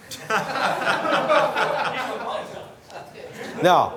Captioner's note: laughter